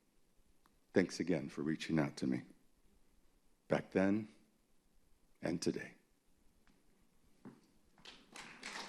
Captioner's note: applause